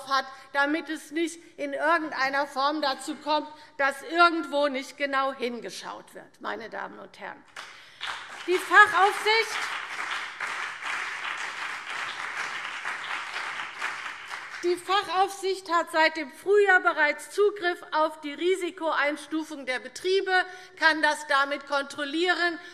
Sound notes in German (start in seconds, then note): 7.5 Beifall BÜNDNIS 90/DIE GRÜNEN und vereinzelt CDU